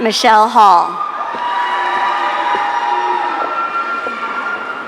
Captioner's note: audience cheering